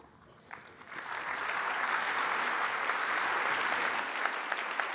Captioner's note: applause